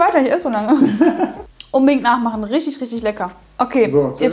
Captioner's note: laughing